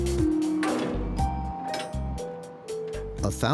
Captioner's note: doors rattling